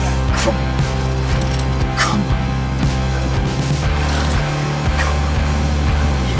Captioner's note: labored breathing